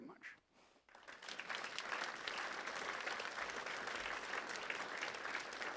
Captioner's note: audience applauds